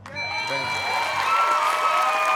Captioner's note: bell ringing; cheers and applause